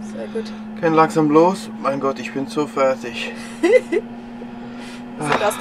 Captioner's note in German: lacht